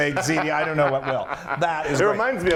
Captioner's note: laugh